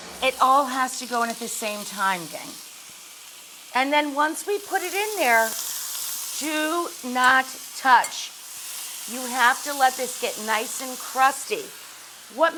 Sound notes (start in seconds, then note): 7.9 burgers sizzling